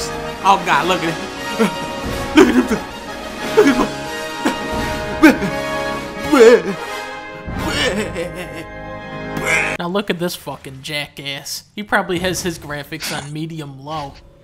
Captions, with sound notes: Oh god, look at it! *Babbling* Now, look at this fucking jackass. He probably has his graphics on medium-low.